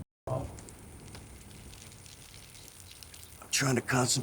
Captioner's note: urination trickling